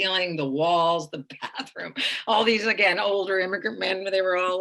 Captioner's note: laughing